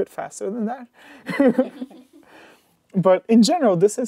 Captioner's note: laughter